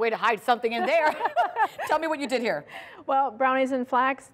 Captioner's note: laughter